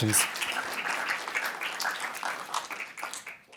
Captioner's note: applause